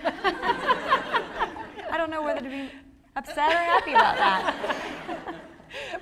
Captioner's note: laughter